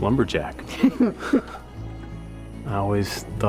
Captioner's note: chuckles